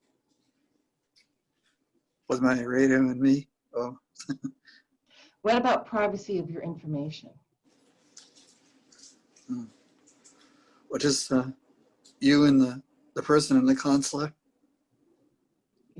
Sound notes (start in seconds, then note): 4.2 chuckles